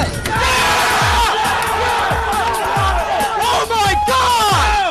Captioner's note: cheerg